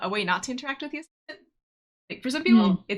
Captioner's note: audio cuts out